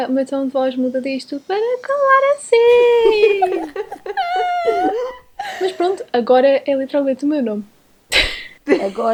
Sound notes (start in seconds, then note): 1.6 very high pitched voice; 2.6 laughs; 8.0 laughs